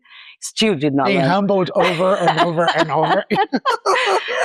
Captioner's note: laughs